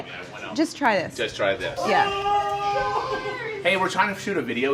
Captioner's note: offscreen yelling